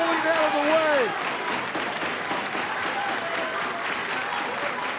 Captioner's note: crowd clapping